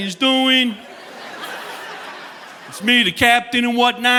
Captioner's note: audience laughing